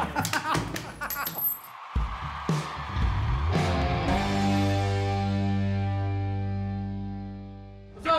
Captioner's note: laughter; cheering